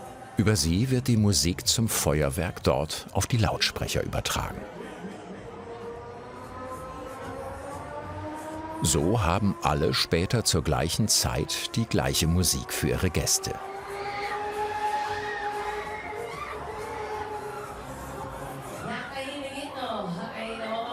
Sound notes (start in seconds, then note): 13.8 ride accelerates, screeching